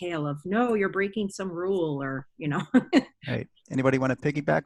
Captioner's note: laughs